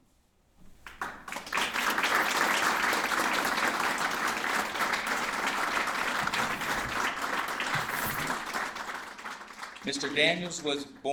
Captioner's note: applause